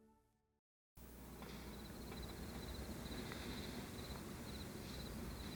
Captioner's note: crickets chirp